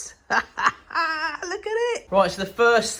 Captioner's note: laughs